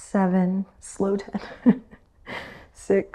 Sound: chuckles

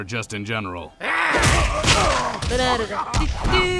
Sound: various grunts of pain

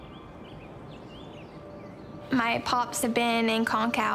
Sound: birds twittering

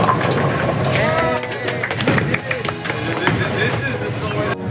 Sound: young men cheering

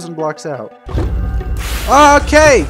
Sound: wither spawns, explosions

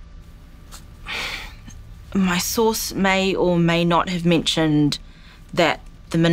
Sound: sighs

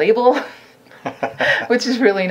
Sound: laughing

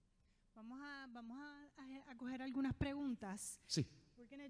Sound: speaking in foreign language

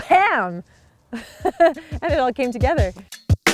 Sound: laughs

